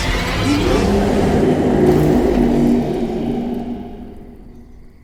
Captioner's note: Greenteeth screams